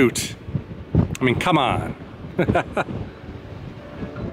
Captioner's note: laughter